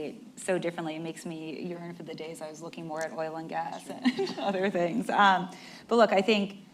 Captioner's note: laughs